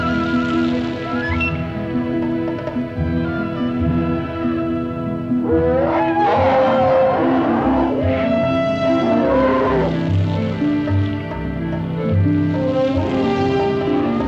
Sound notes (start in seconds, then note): 5.4 bellowing